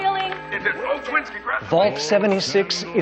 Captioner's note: operators yelling